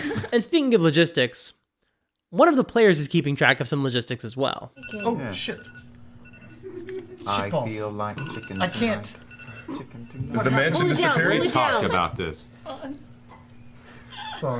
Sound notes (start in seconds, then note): 4.8 phone alarm ringing